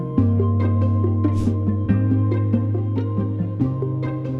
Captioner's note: air whooshes